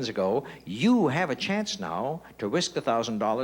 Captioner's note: none